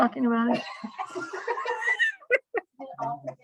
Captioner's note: laughter